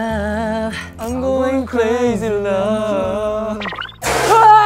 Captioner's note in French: Moutonnant ses mots